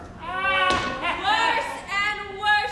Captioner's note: Grumio laughs